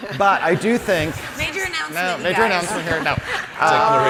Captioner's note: audience and panelists laugh